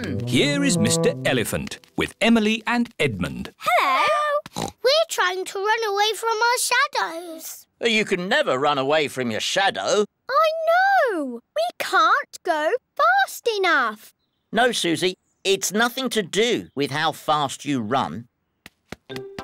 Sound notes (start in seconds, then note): 4.5 oinks